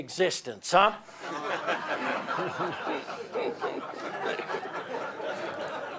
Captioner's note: laughter